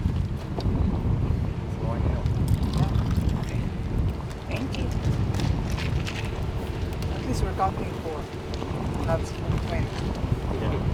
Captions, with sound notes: Okay, thank you. (team chattering)